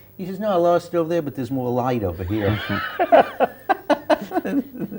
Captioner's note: laughter